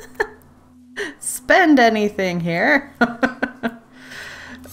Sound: laughs

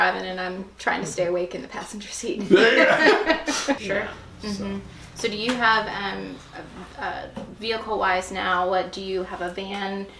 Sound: laughter

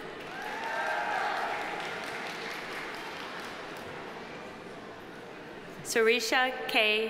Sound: audience applauding; audience cheering

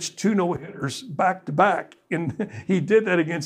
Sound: chuckles

